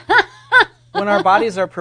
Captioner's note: laughing